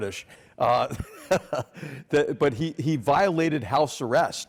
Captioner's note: laugh